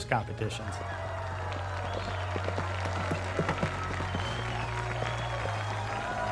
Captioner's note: simulated cheering and applause